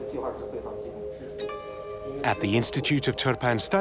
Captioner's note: speaking Uyghur